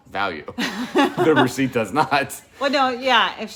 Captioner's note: laughing